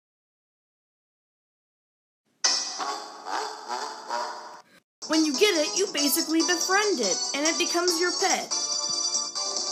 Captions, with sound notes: *Evil laughter* When you get it, you basically befriend it, and it becomes your pet.